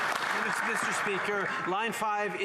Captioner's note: some Applause